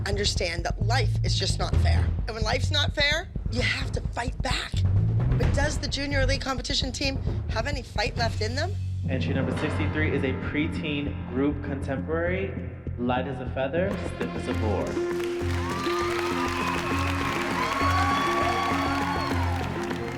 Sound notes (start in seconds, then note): 14.5 cheering; 17.4 applause